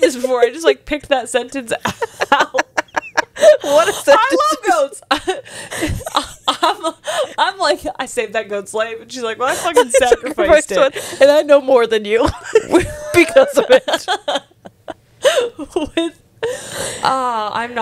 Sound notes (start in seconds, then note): 12.8 laughs; 14.1 panel laughing